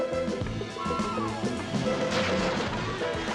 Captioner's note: gun firing